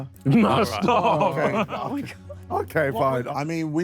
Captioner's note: Sidemen laugh